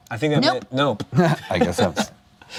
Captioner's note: laughs